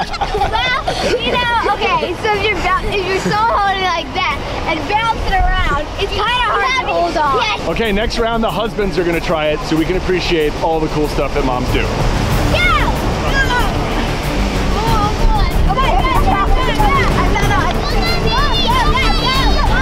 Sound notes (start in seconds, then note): 0.0 laughing; 13.5 dramatic music; 17.8 cheering